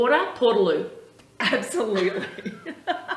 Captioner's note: chuckles